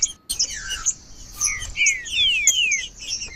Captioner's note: trinca ferro cantando